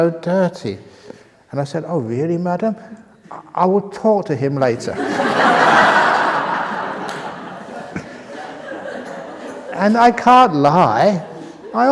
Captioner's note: laughter